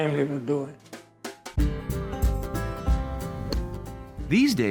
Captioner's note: acoustic music; golf club swings